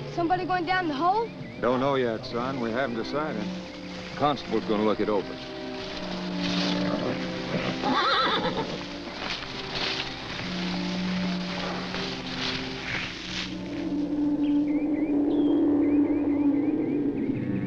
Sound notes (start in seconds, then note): 6.3 horse neighs; 14.8 ominous music